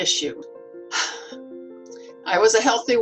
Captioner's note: sighs